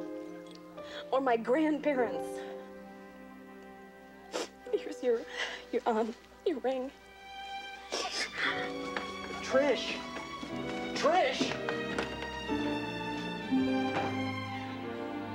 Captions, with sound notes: What are you talking about? Ask my parents or my grandparents. [sniffling] Here's your-- your, um, your ring. Trish. Trish!